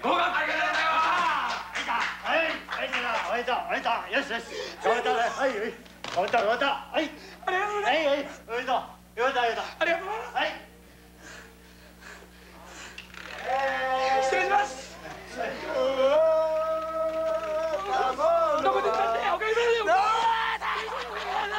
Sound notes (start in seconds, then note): 0.2 cheering and applause; 3.7 speaking Japanese; 17.6 speaking Japanese